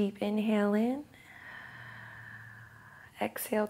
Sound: exhales

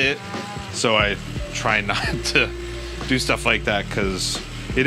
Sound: laughs

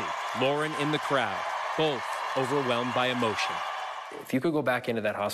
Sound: cheers and applause

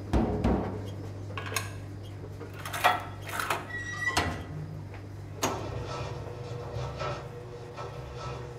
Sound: sound of horse climbing into washing machine and cycle beginning

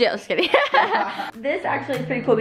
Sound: laughs

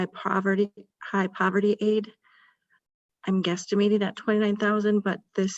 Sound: none

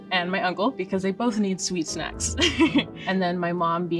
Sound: laughs

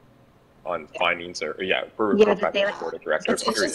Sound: chattering from members

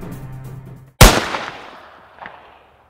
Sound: gunshot

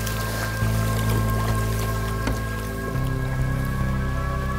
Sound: paddle strokes; cinematic music

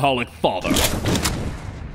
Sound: guns cocking

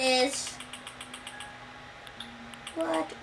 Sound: button noises

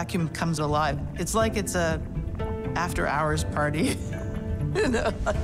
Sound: laughs

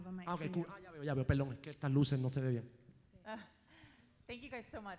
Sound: speaking in foreign language

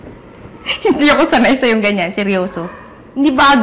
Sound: chuckles

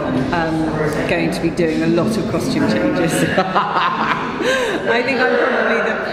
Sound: laughing

